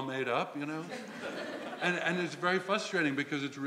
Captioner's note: laugh